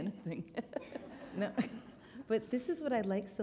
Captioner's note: chuckle